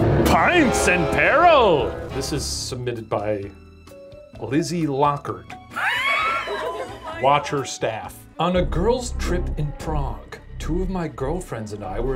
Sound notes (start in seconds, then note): 0.0 dramatic music; 5.8 laughing